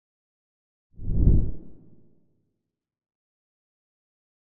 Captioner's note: logo whooshes